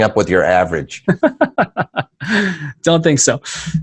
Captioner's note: laughing